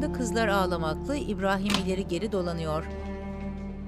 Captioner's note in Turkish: Kapı açılma sesi